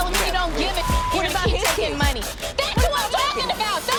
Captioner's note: beep